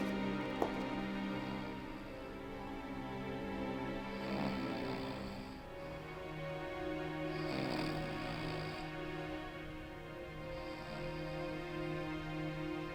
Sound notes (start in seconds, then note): 1.4 snoring